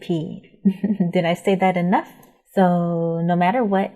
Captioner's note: chuckling